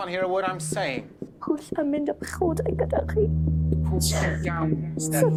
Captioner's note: in Welsh